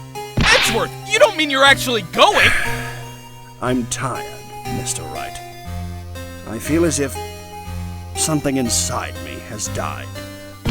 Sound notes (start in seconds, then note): 2.3 sigh